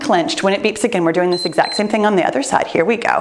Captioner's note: timer beeps